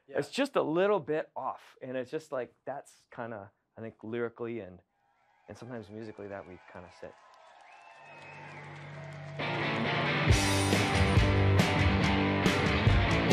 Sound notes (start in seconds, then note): 7.4 cheers, whistles, & applause; 9.2 playing rock 'n' roll